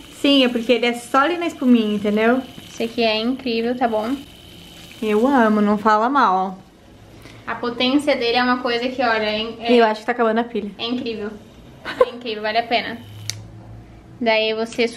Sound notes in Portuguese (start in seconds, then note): 12.2 sendo irônica